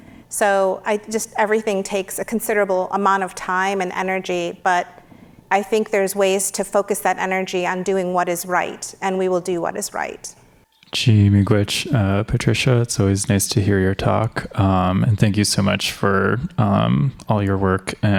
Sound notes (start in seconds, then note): 11.9 speaks in foreign language